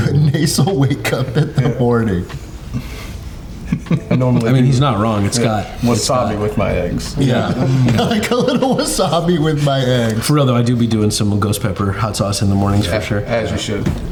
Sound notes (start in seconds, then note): 3.3 laughing; 10.0 laughing